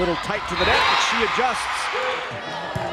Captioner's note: crowd cheering